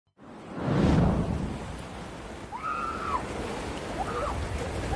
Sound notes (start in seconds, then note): 2.5 excited screaming